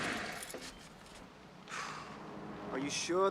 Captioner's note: exhales